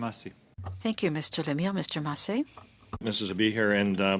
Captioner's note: speaking French